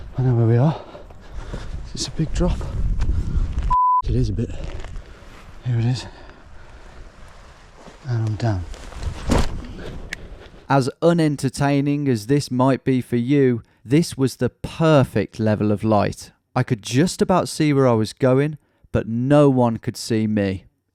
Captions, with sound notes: I know where we are. It's a big drop. (beep) it is a bit. Here it is. And I'm down. (bag thwacks) As un-entertaining as this might be for you, this was the perfect level of light. I could just about see where I was going, but no one could see me.